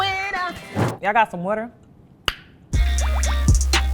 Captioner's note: lip pop; upbeat hip hop music